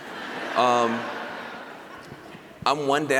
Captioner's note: laughter